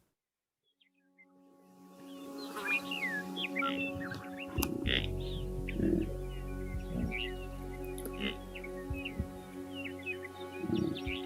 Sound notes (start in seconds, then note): 2.0 birds singing; 2.5 gentle music